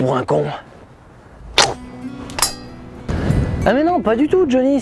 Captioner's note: clunk